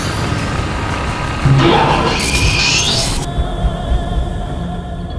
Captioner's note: electronics whirring; tense music